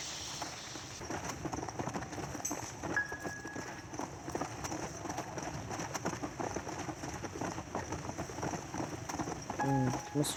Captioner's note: horse noises and original music from the accelerated game